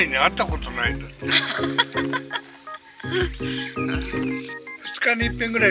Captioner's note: laughs